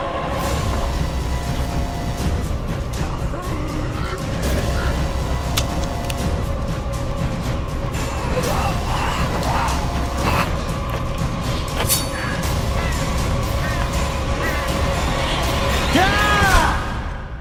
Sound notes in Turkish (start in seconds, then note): 0.1 Gergin bir müzik; 3.0 Zombiler hırlar; 8.2 Gergin bir müzik; 8.2 Ted hırlar; 15.9 Bağırarak saldırır